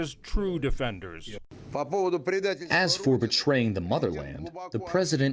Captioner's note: through translator